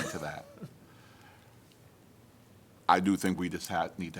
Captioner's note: laughter